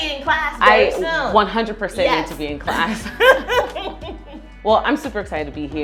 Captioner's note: both laugh